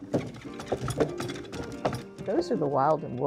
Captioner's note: sond of oxen pulling cart down road